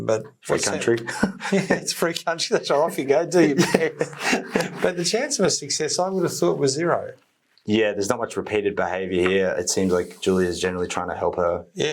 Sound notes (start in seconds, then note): 1.0 both chuckle; 3.4 both chuckle